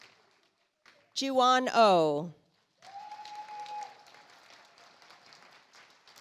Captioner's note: audience applauds